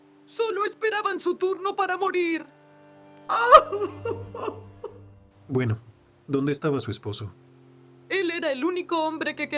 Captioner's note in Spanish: risas